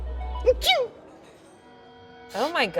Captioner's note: pathetic sneeze